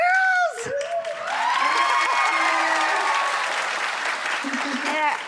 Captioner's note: audience cheering